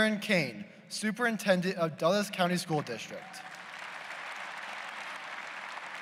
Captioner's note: applause